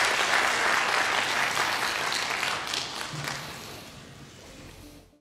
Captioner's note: applause